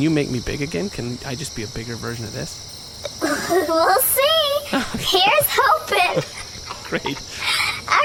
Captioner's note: quietly; laughing